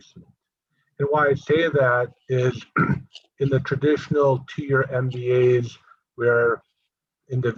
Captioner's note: cough